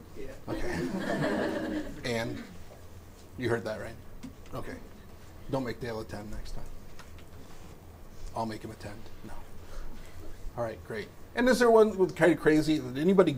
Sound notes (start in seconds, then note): 0.5 audience chuckles